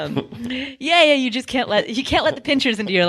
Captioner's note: crowd laughing